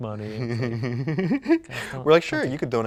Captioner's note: laughs